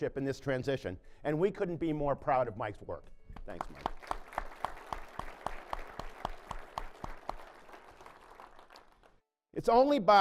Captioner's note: applause